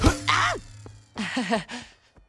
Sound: nervous chuckling

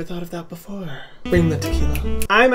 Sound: fingers snapping

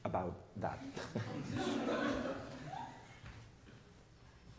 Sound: people laughing

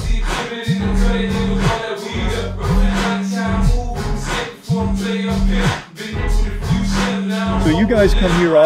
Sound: phone vibrating

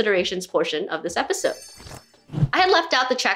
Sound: jingling sound

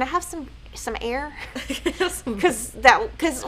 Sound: both laughing

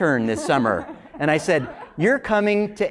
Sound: laugh

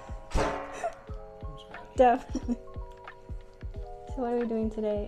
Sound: laughs

